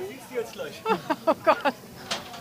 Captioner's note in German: lacht